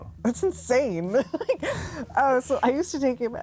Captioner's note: giggles